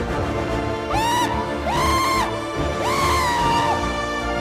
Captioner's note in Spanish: grito